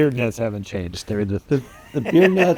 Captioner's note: laughing